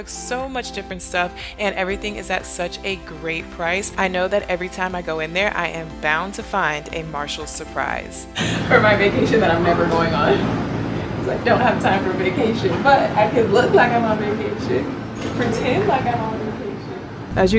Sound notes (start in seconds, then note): 8.3 laughs